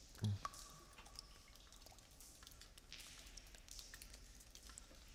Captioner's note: cave water dripping